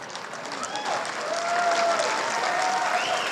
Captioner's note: applause; cheers and whoos